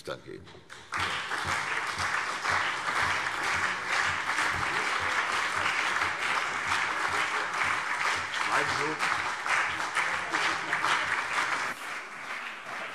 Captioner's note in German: Anhaltender Beifall CDU und BÜNDNIS 90/DIE GRÜNEN